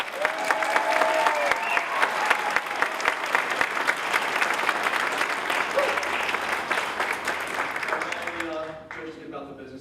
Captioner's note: applause